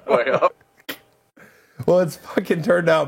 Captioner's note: laughing